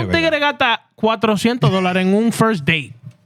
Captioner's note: speaking Spanish